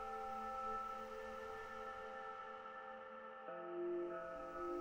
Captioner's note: none